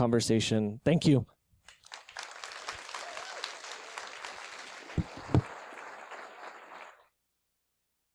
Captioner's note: applause